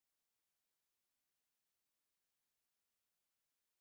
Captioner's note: none